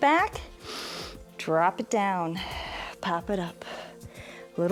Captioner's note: exhales; inhales